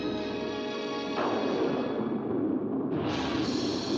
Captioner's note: romantic music; loud thunder; suspenseful music; thunder rolls